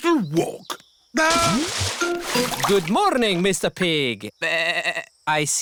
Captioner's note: bleats